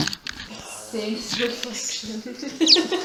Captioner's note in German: Lachend